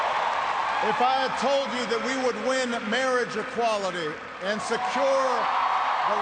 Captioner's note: cheers and applause